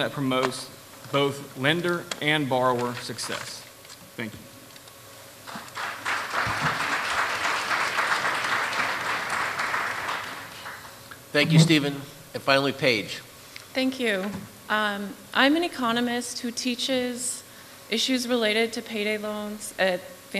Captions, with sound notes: promotes both lender and borrower success. Thank you. [Applause.] Thank you, Stephen. And, finally, Paige. Thank you. I'm an economist who teaches issues related to payday loans at Vanderbilt Law